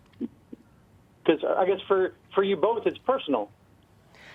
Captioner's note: voiceover